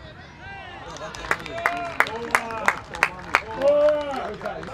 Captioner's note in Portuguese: gritos de gol